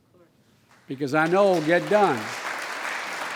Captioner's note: applause